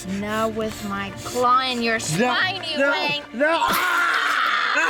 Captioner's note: screams; gory sound of claw stabbing into back